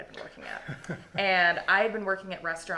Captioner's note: chuckling